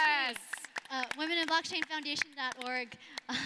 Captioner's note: applauding